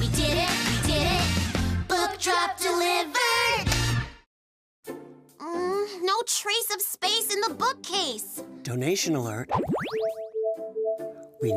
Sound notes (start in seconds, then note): 5.6 groaning